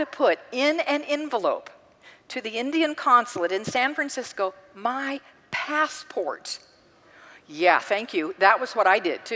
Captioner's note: congregant gasps